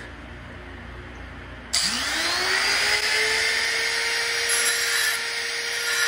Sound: drilling

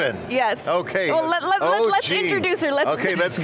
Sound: laughs

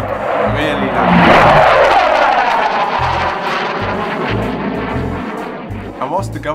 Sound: loud aeroplane noises

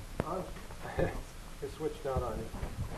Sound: laughs

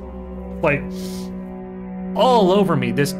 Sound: sniff

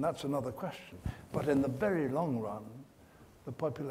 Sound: none

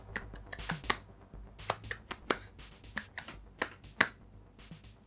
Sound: audio sync clapping turns rhythmic

